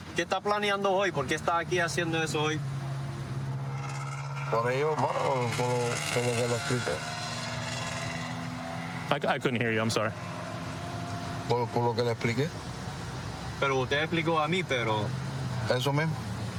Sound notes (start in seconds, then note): 0.2 speaking spanish; 10.5 speaking spanish